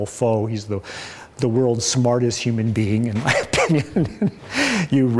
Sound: laughs

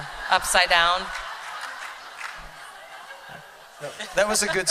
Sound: laughter

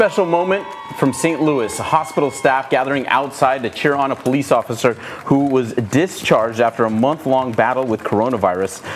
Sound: applause

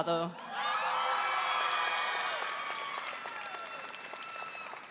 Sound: audience cheering

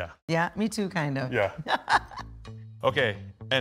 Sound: laughing

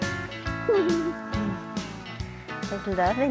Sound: giggles

